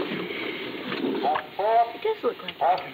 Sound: voice on drive-in speaker

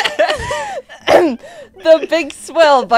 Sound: coughs

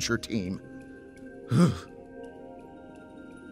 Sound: sigh

